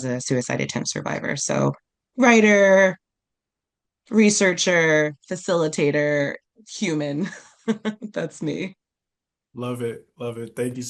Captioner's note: laughs